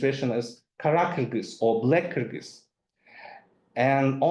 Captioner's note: speaks in foreign language